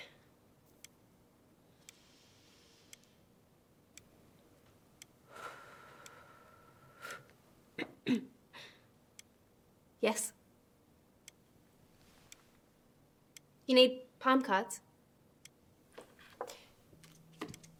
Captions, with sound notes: (Annie exhales) (clears throat) - Yes? You need palm cards?